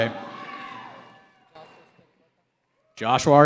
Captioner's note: cheering